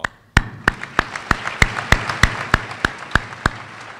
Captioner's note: applause